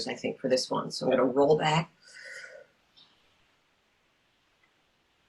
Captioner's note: breathes in